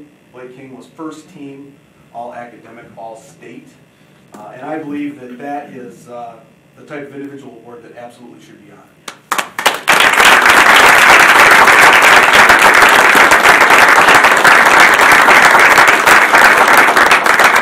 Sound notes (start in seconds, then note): 9.2 audience applauding